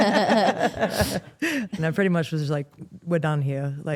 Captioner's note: Steph and Elyse laugh; laughs